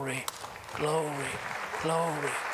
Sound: applause

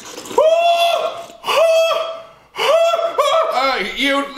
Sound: screaming

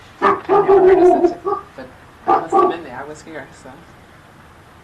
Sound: dog barking; speaking faintly

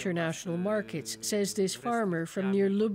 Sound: speaking alternate language

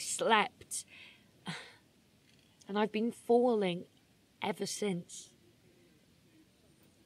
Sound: sighs

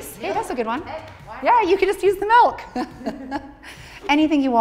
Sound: laughing

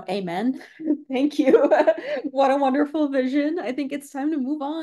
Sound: laugh

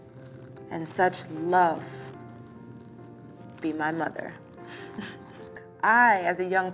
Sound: laughs

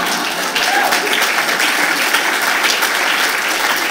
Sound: applause

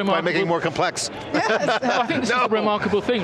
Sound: laugh

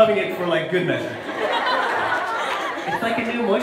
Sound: crowd laughs

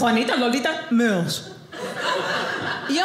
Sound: Spanish accent; southern accent; audience laughing

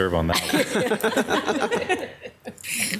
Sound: laughs

